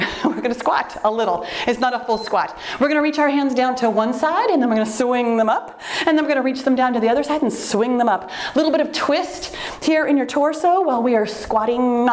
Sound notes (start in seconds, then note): 0.0 laughs; 1.7 timer beeps